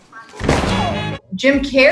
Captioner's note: body flopping